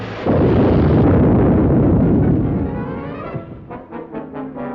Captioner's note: loud explosions